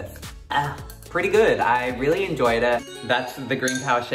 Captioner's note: voiceover